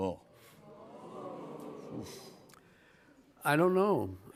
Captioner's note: audience oohs